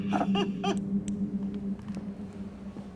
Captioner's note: flashlight clicks off